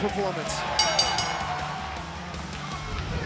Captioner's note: bell ringing; crowd cheering; rock music